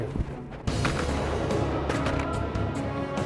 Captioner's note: gun shots